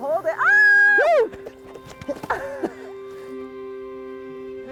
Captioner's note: laughter